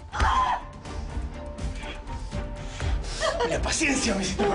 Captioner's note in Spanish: Grito